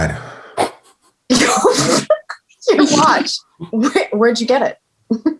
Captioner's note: laughing